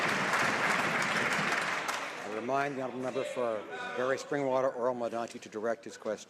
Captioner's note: some Applause